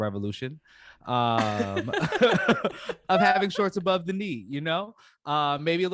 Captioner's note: laughter